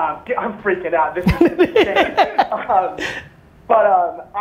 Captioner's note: Gary laughs